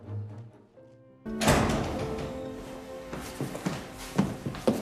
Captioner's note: cop de porta